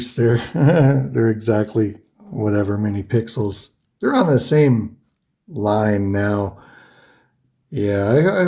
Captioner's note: giggles